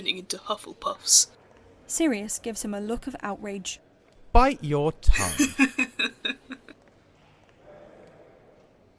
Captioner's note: James laughs